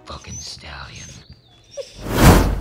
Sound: confused flustered hellhound noises

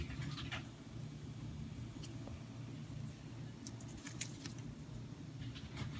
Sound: tiny skritching sounds from Q's nails on the paper

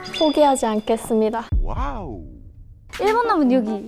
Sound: heart pounding

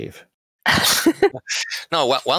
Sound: laughter

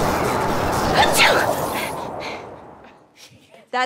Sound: sneezes

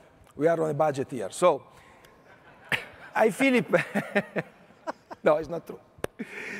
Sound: laughs; audience laughing

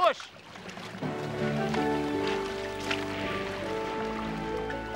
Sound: water splashing

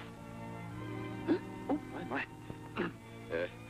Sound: gasps

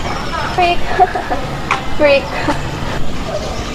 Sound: laughing

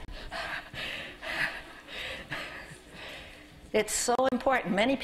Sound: laughing

